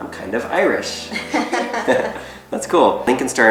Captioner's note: laughs